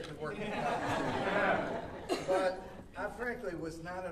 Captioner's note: audience laughing